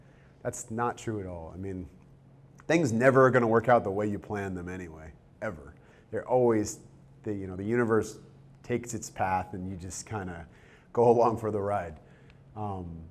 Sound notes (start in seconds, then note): none